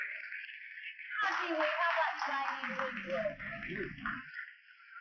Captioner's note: applause; chatter